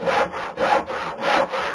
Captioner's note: sawing